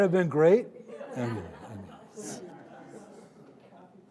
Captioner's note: audience laughing